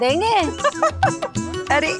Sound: laughing

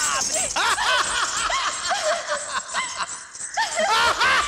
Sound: laughs

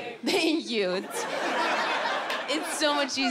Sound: audience laughing

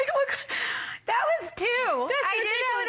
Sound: laughter

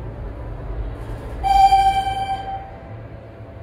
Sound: elevator chime

